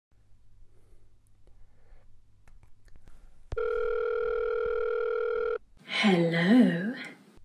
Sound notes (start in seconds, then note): 3.5 phone ringing